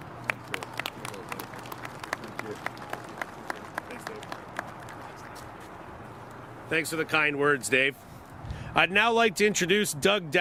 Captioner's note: applause